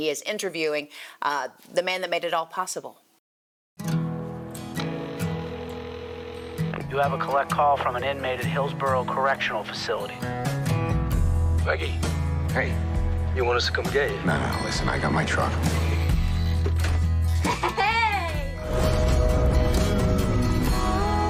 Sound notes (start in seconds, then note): 4.8 phone ringing; 17.3 chuckles